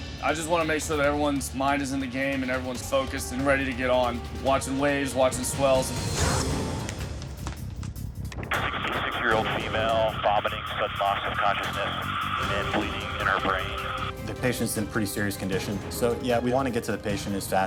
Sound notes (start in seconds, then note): 6.4 zipper zipping